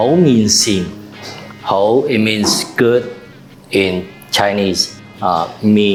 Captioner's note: Cantonese